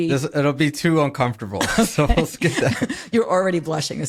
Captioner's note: laughing